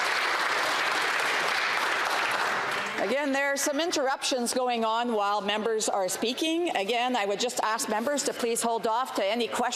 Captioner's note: some Applause